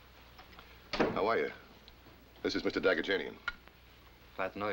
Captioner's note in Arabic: يتمتم